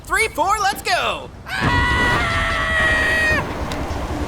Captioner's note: screams